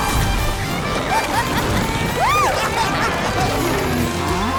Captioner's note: laughing; mooing